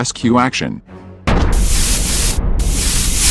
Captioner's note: boom and sparks